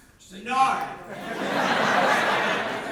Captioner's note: audience laughter